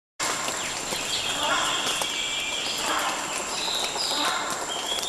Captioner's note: rhinoceros hornbill honking